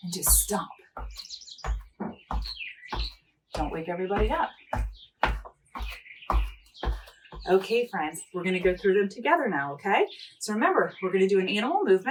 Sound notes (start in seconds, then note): 0.9 feet thudding